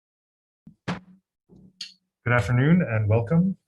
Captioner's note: gavel tapping